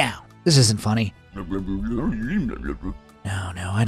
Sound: George mumbling

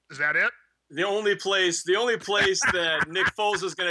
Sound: laughter

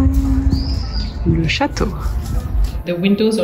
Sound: speaks French

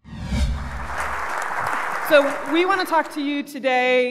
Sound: audience applauds

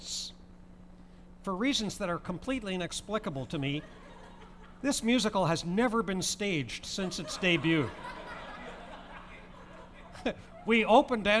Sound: laughter

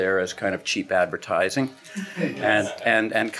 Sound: laughing

